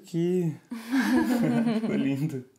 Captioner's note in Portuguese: risos